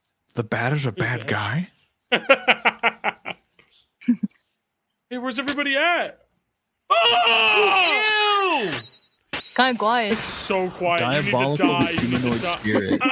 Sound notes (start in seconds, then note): 2.1 laughs; 6.8 yells